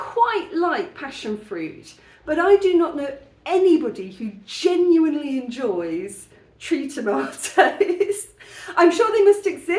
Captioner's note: laughing